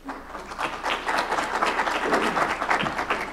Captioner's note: applause